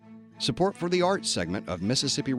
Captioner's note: voiceover